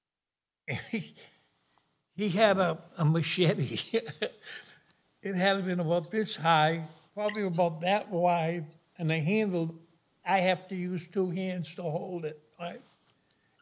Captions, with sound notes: He had a machete. [LAUGHS] It had been about this high, probably about that wide, and the handle, I have to use two hands to hold it.